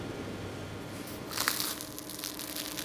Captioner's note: crunching